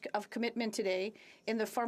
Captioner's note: speaking French